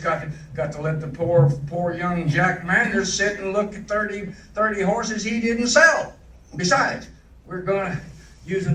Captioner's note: footsteps